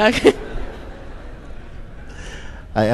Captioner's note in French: rire